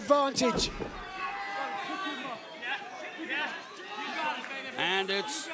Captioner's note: crowd chatter